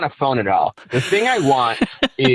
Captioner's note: laughing